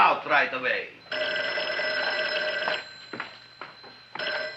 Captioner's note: phone ringing